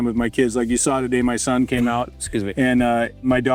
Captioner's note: coughs